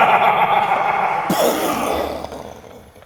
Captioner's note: boooom